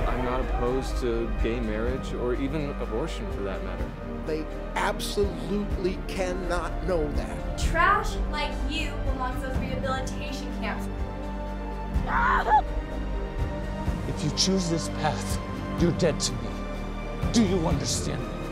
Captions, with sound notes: I'm not opposed to gay marriage or even abortion for that matter. They absolutely cannot know that! Trash like you belongs at rehabilitation camps. [screams] If you choose this path, you're dead to me. Do you understand!